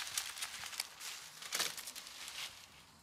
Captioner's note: quiet rustling